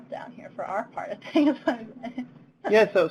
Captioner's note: laughs